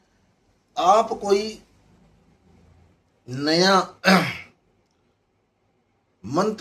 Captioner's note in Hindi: गला साफ़ करने की आवाज़